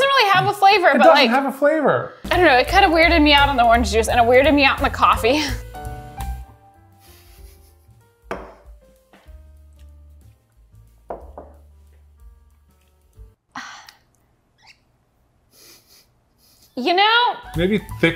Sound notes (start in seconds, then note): 7.0 chuckling; 8.3 glass thudding; 11.0 glass thudding; 13.5 sighing; 15.6 chuckling